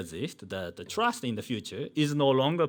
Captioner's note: man speaking in foreign language